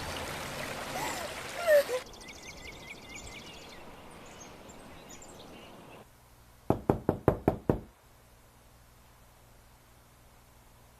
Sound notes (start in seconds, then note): 3.4 birds chirping; 6.7 soft knocking